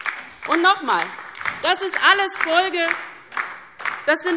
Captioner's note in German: Beifall DIE LINKE